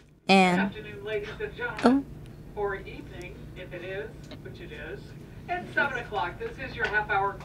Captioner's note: over speaker system